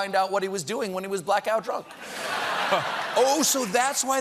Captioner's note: laughter